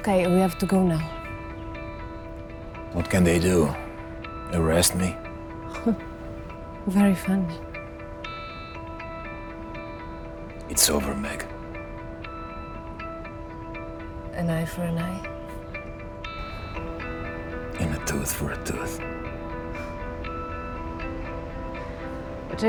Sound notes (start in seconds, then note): 5.6 Megan laughing; 12.5 gentle upbeat music; 19.7 gentle upbeat music